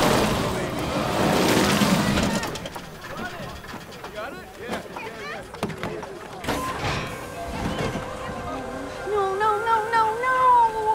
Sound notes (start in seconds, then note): 5.3 hydraulics whirring